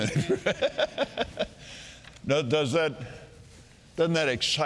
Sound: Kenneth laughing

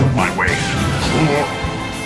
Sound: grunt

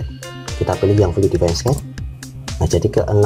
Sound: click

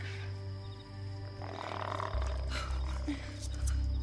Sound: grunting

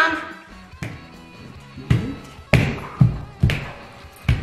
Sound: feet stomping

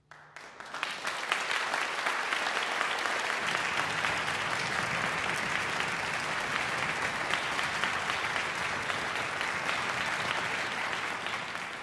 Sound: audience applause

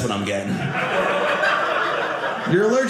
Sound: audience laughing

